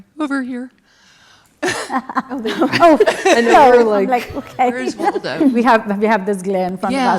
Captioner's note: laugh